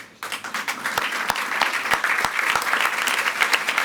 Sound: audience applauds

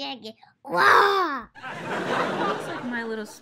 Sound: audience laughs

